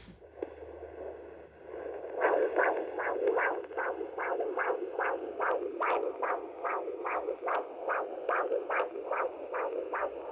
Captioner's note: baby's heartbeat pulses on ultrasound